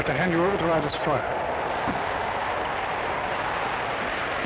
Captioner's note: wind howling